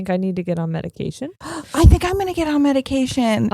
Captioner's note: gasping